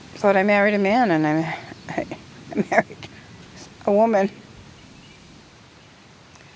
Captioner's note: awkward chuckle